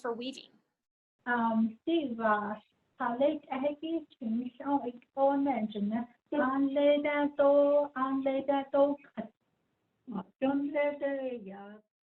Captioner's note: speaking in Diné